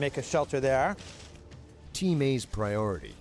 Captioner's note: voiceover